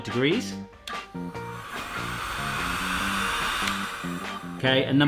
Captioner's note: motor whirring